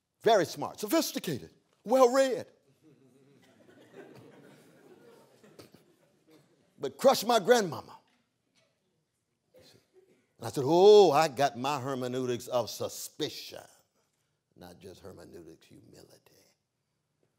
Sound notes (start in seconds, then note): 2.8 laughter